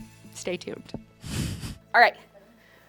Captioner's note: laughs